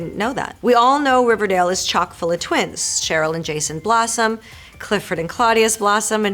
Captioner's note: Marisol reading fan letter aloud